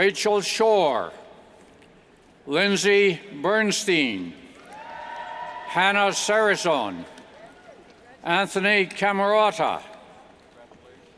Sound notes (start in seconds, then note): 4.6 cheers and applauds